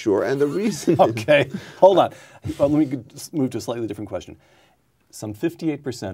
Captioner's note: laughing